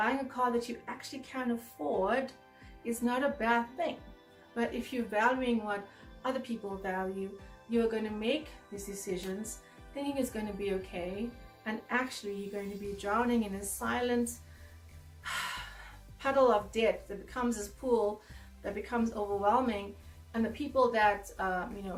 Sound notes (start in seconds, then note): 15.2 sigh